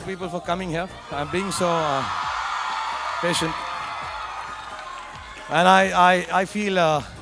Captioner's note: audience cheering